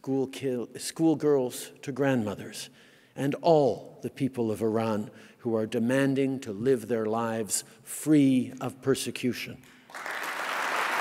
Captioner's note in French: Applaudissements